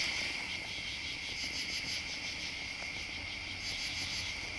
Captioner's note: insects chirping